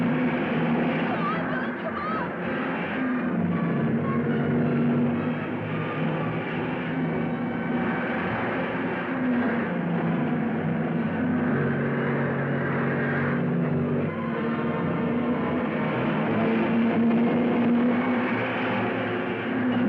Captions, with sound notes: - Come on, Billy, come on. (dramatic music) (cars revving)